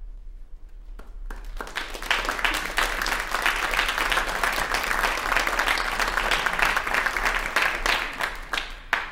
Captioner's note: applause